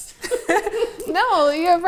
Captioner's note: all laugh